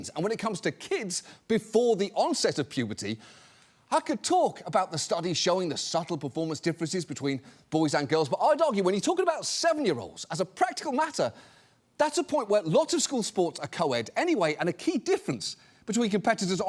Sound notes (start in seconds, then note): none